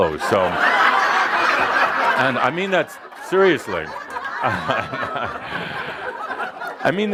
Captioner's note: laughter